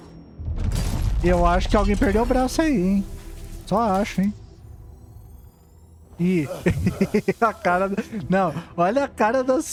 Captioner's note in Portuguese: risadas